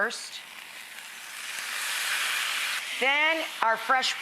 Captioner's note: sizzling